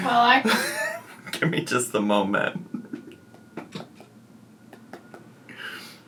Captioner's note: chuckling